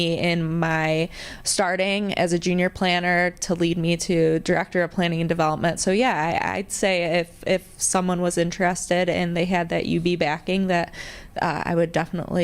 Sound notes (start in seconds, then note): none